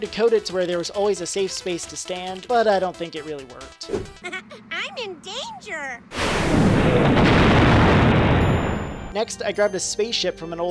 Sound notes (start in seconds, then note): 4.1 chuckles